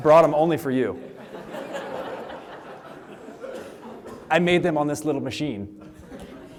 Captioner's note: laughter; laughter